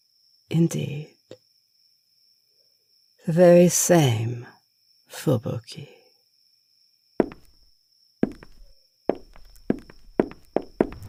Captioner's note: increasingly fast footsteps, door slams